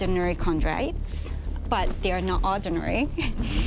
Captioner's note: chuckles